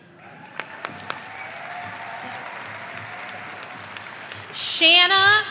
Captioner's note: audience applauding